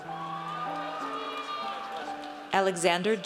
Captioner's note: audience cheers